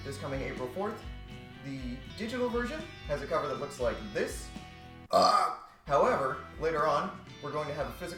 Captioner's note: gross burp